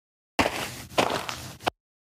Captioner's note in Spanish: FX - Footsteps - On Multiple Dirt - Walk